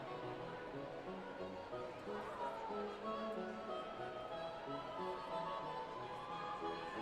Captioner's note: none